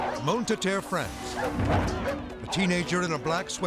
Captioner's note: dogs barking